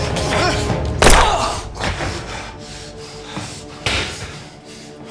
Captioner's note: gunshot booming